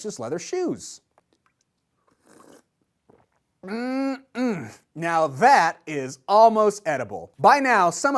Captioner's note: slurps soup